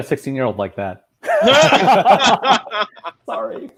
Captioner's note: laughing